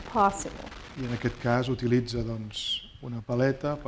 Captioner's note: speaking spanish